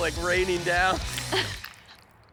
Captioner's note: laughs